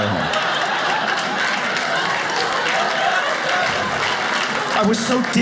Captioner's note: audience claps